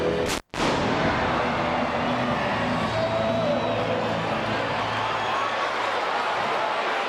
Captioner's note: fireworks exploding; crowd chattering